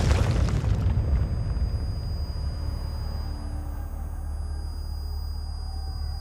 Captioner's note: explosion blasting, screaming; indistinct shouting; high-pitched whining